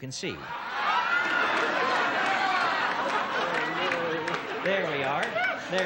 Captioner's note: laughter